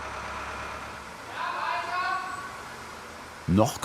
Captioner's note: loud instructions